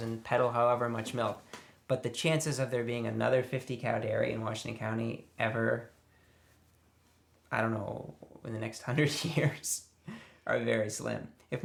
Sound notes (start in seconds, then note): none